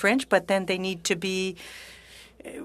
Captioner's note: speaking French